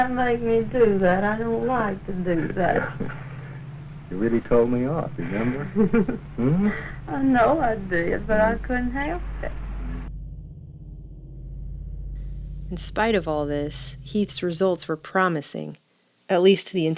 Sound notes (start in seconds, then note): 7.9 laughs